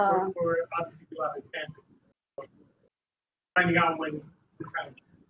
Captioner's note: man's voice garbled over phone